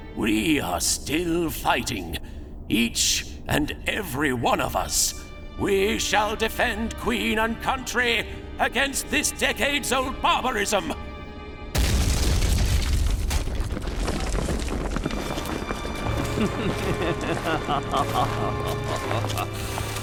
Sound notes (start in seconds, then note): 11.7 boom; 16.1 evil Chuckle